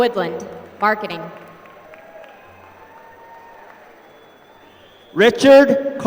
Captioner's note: applause